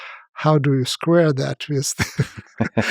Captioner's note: both laugh